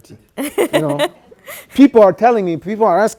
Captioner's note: laughs